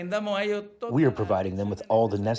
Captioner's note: through translator